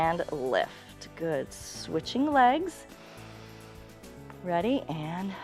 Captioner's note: inhales